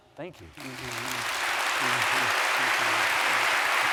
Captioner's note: applause